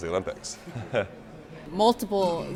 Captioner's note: chuckles